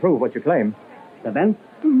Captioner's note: speaking portuguese